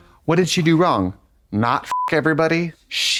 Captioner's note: beep